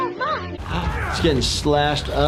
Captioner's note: screaming